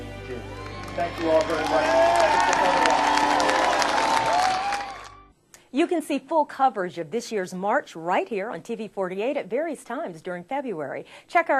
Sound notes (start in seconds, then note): 0.4 applause